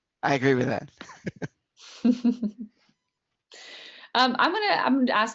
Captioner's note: laughter